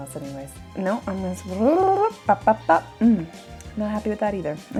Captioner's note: tongue rolling